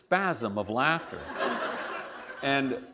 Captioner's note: laughter